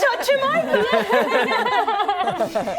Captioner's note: laughter